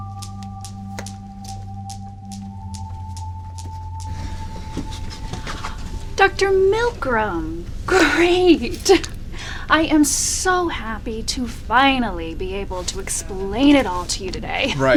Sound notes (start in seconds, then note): 4.6 footsteps approaching